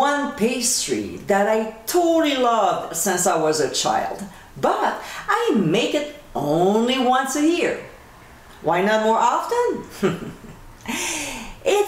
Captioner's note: giggling